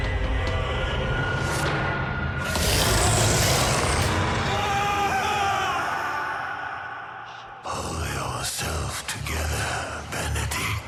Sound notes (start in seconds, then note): 2.4 roars; 6.1 yells